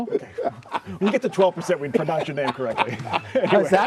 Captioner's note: laughter